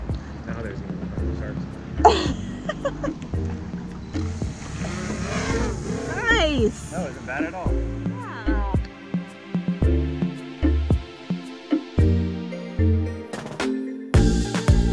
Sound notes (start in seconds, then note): 2.0 laughs; 4.1 drone motor revs; 9.9 uplifting music